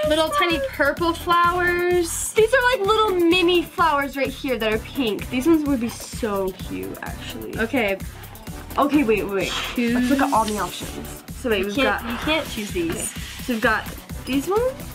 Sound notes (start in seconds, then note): none